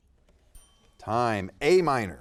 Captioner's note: timer dinging